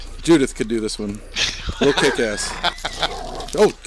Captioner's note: laughs